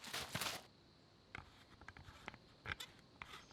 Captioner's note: shaking water